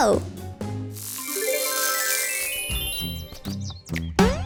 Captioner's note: transition tones; boing